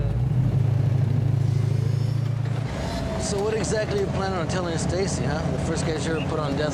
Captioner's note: none